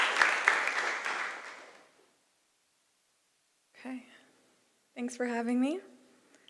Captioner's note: applause